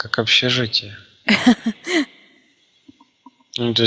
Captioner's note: laughing